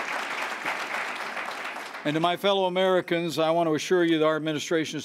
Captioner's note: applause